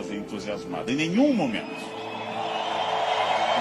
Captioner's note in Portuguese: Aplausos